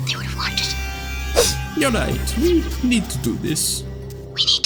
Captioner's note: sniffs